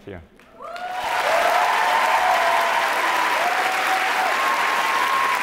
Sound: audience applauds and cheers

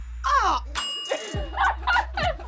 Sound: bell dings; group laughs

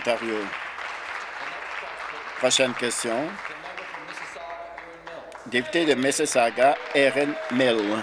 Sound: applause

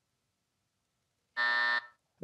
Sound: buzzer

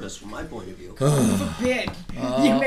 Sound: voiceover

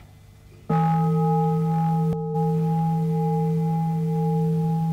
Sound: bell rings

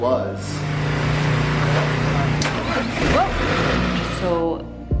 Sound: machines whirring

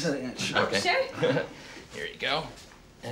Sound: chuckles

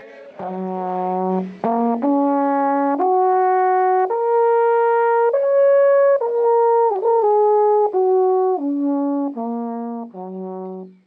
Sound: sound of horn

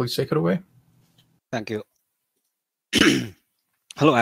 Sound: 咳嗽声拜感冒所赐

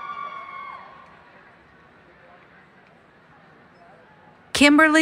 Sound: cheering

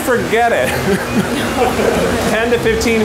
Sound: laughter

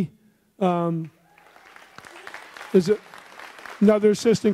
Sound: audience applauds

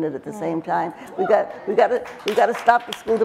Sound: crowd starts to clap

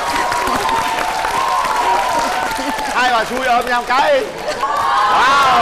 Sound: applause

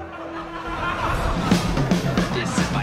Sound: laugh track and then a parody of the Community opening plays

